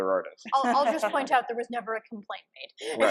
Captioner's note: panelists laughing